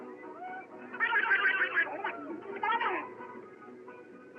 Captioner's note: quacking